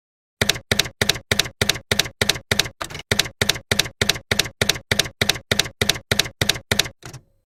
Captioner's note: typewriter keys clacking